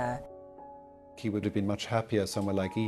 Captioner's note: voiceover